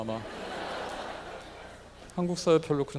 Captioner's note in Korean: 청중들 웃음 ㅎㅎㅎ